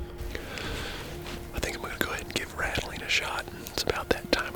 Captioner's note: whispering